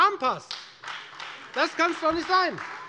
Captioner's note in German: Beifall Freie Demokraten und AfD